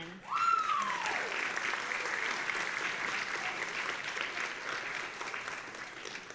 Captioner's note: audience applauding and cheering